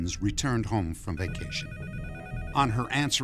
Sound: phone ringing

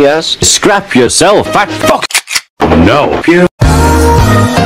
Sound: gun clicks

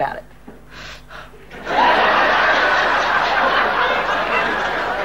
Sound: audience laughing

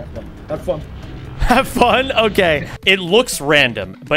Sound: laughs

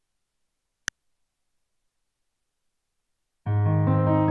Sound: faded click; soft music

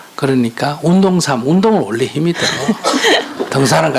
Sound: questioner Laughter

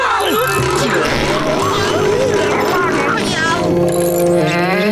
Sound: screaming; yelling

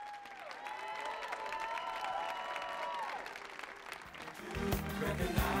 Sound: audience cheering and applauding

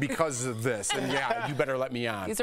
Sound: laughter

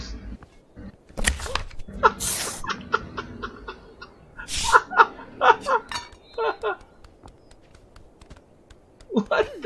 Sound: laugh

